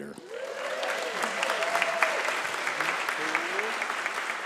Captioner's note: congregation applauds